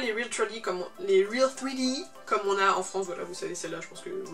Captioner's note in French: accent français